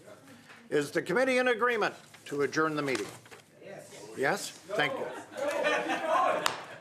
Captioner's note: laughter